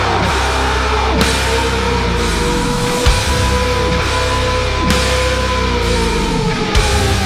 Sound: sirens playing slowly

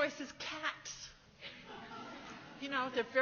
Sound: laughs

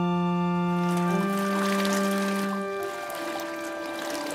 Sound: splashing

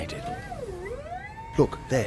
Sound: elevator whirrs

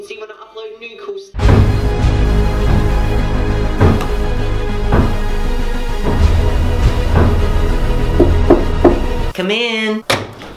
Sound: footsteps

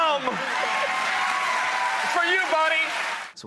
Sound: audience applauds

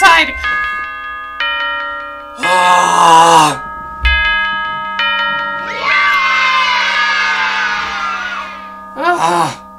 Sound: bells chiming and children screaming "yay!!!"}

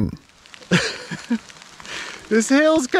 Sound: laughs

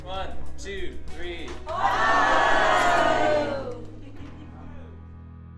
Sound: chorus of greetings from the crowd; music fades out

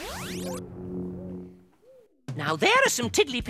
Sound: poofs

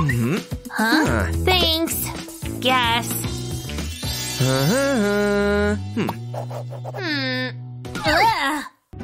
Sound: making happy sounds

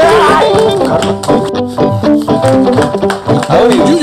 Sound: children clapping

